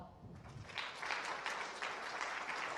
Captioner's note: applause